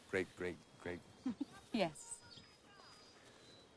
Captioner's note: laughs